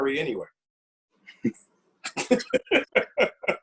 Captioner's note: laughter